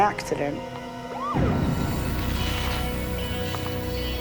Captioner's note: sirens whoops